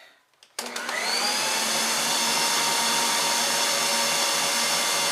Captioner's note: electric mixer whirs